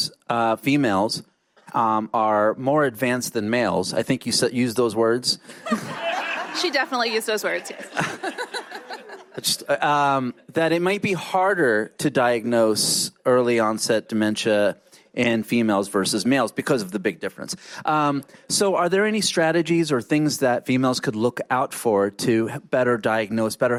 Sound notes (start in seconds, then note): 5.5 laughter